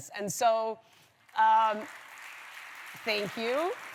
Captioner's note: applause